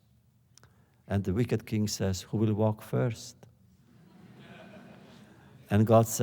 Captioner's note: laughter